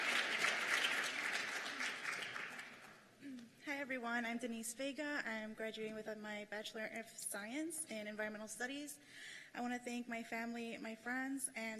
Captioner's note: cheers and applause